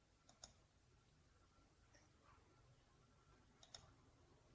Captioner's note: clicks mouse